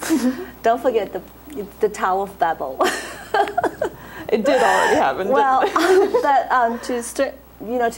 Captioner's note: laughs